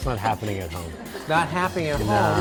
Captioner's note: chuckling